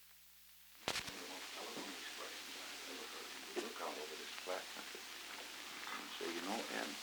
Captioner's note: background conversations; Murrow, mumbling